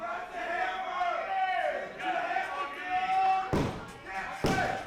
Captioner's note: crowd jeering